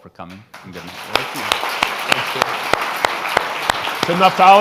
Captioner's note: all applauding